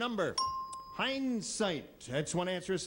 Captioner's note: bell rings